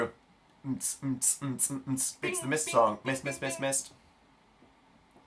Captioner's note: beatboxes